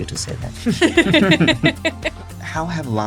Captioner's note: hosts laughing